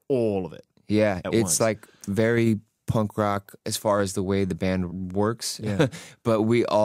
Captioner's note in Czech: smích